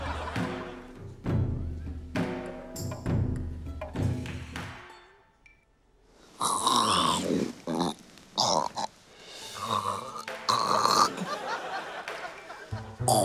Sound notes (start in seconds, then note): 0.0 laughter; 6.6 croaks gutturally; 9.5 continues croaking